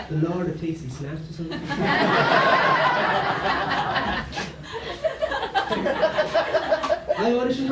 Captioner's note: laughter